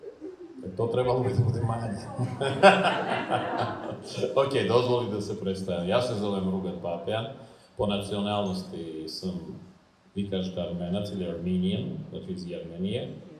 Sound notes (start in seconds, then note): 2.3 laughs